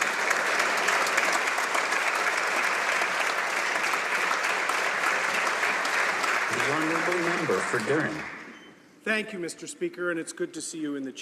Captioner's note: applause